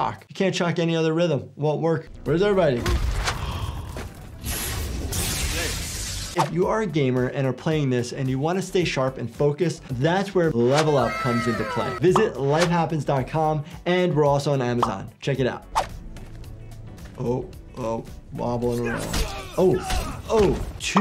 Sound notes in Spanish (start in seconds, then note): 4.3 electricidad zapping